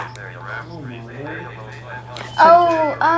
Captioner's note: calculator voices and tones